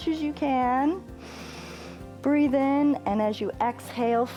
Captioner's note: inhales